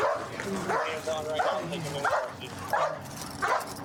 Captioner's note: dog barking